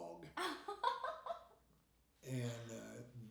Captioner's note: laughing